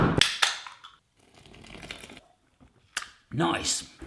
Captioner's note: can opening